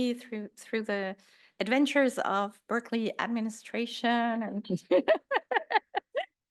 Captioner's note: laughs